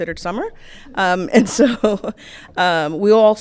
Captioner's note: chuckles